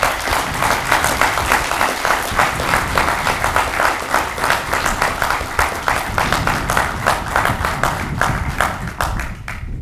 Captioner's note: audience clapping